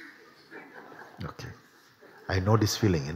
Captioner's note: laughter